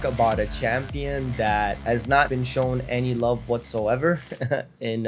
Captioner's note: laughs